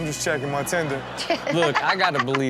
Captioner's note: everyone laughs